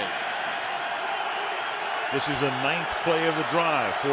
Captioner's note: cheering